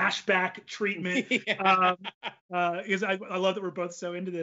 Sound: laughs

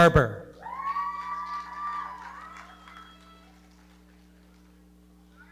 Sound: audience cheering and clapping

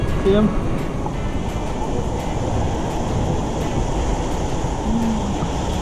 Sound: laugh

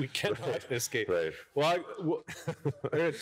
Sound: chuckle

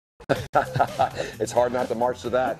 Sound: laughing

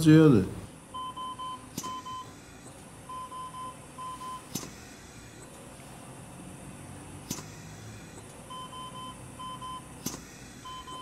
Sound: ventilator beeping

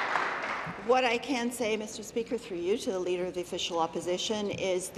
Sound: applause

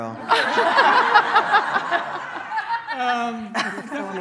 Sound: laughing

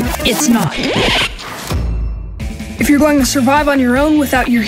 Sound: record scratch

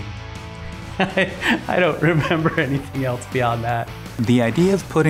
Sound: laughs

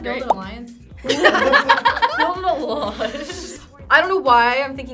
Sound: laughing

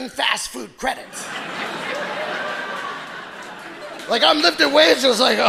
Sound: audience laughing

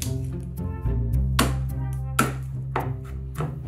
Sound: garlic paper rustling; knife slamming; knife chopping

